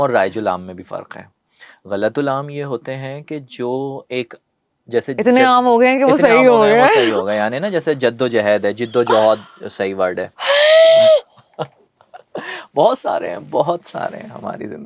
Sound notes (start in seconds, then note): 10.4 sudden intake of breath; 12.0 laughter